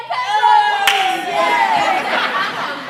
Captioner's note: cheering